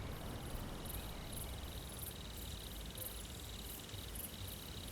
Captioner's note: crickets chirping